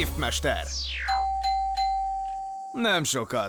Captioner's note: dinging